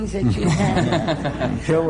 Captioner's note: laughter